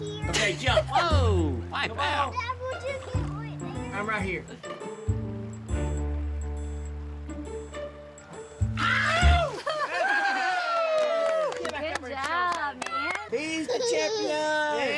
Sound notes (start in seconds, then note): 10.0 clapping, cheering